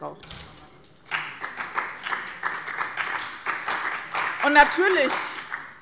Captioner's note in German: Beifall bei dem BÜNDNIS 90/DIE GRÜNEN und der CDU